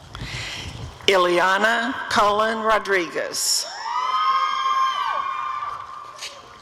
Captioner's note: audience cheering